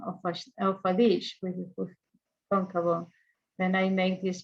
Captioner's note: speaks in foreign language